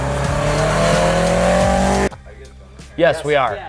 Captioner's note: car roaring